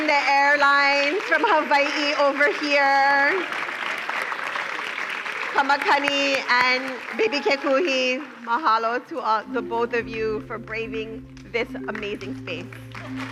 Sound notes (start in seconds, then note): 3.5 applause